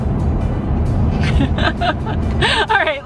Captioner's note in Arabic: يضحك